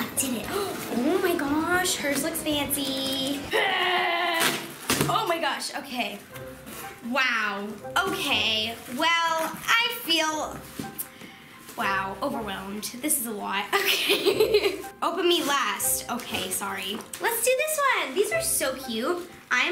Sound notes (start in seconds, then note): 3.6 grunts; 13.8 laughs